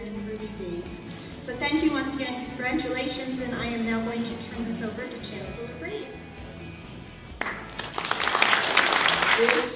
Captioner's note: applause